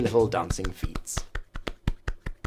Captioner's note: happy slappy feet sounds